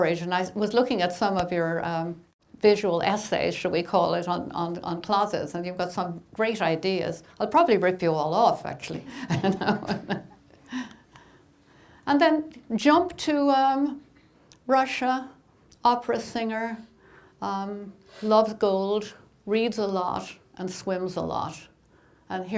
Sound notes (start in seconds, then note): 8.9 laughing